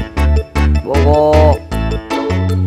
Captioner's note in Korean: 굵은소리로